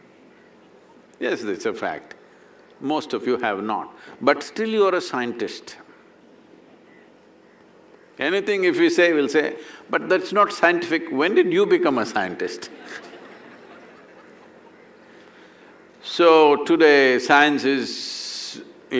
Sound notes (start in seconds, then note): 12.7 laughter